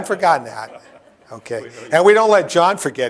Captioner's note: laughter